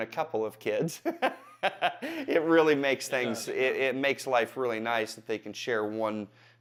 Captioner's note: laughs